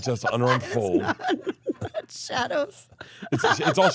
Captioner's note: laugh